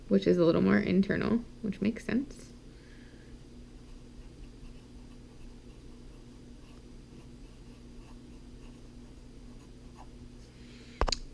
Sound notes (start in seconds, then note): 5.3 pen writing on paper